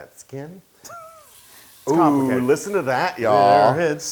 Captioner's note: laugh